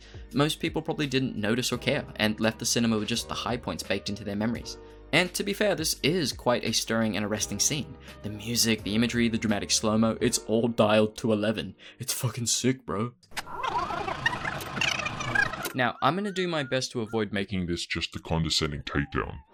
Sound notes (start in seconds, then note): 11.6 Sarcastic; 13.3 rewinding tape sounds